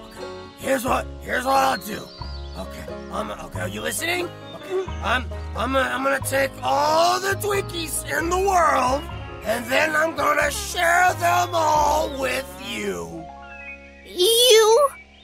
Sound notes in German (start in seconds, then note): 4.1 Kotz-Geräusche von Elaine wegen dem Alkohol